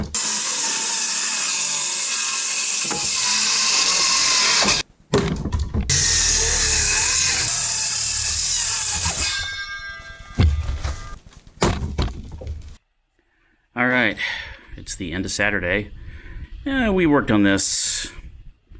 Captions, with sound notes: [sawing noises] [board hits pile] [sawing noises] [board hits pile] All right, it's the end of Saturday and we worked on this...